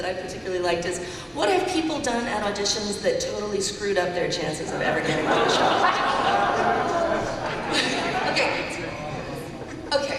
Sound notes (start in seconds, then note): 4.7 laughter and chatter